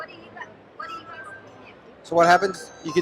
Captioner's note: notification tone